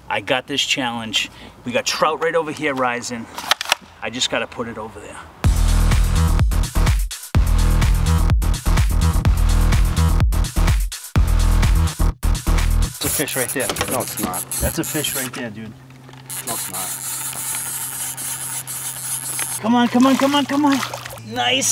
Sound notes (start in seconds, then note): 5.5 dubstep music; 17.4 line reeling